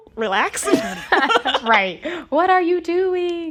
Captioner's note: laughter